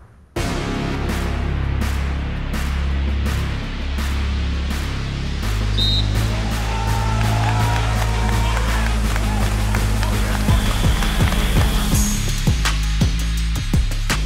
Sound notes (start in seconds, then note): 5.6 whistle; 5.7 crowd cheering